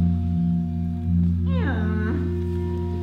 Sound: donkey brays

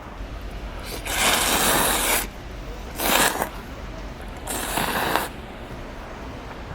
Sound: slurping noodles X 2

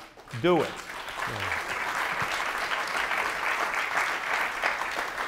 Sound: audience applauds

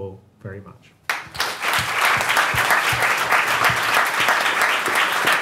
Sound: audience clapping

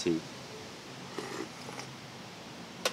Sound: sips tea

